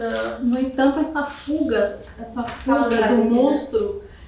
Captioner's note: speaking portuguese